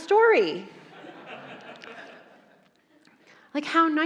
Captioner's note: audience laughing